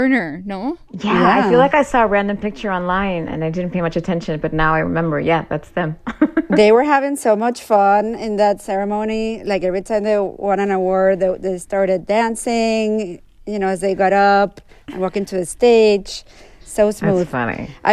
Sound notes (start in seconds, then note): 6.0 laughter